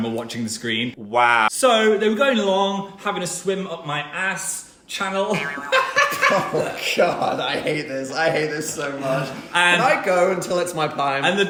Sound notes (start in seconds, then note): 5.3 laughs